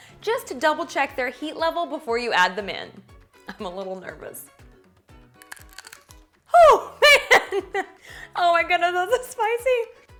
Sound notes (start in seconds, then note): 5.3 pepper crunches; 6.6 chuckles